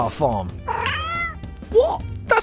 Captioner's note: bag meows AGAIN